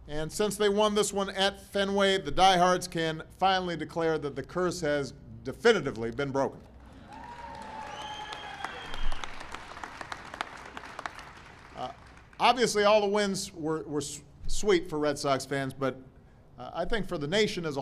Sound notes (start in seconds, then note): 8.5 applause